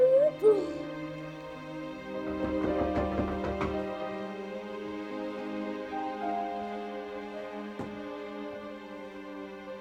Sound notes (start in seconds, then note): 0.0 vocalizing; 2.2 visitor knocking; 4.8 somber music continues